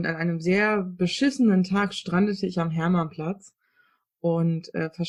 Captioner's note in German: none